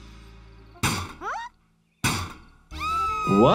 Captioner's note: metal crashing; Petunia screaming